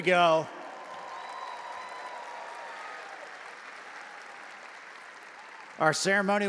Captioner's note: audience applauding and cheering